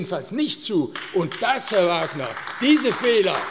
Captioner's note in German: Beifall AfD